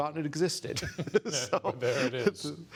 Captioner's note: laughter